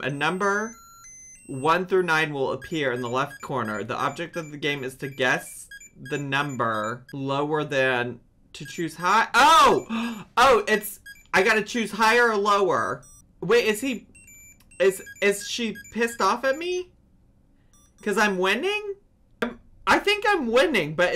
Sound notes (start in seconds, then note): 13.5 Tamagotchi beeps